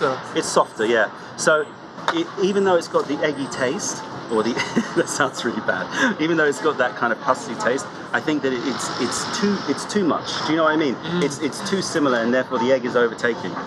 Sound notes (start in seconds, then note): 4.5 laughter